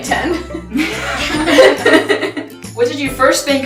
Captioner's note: all laughing